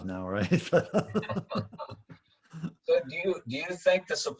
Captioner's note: laughing